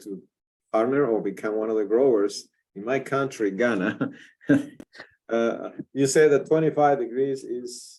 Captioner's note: laughs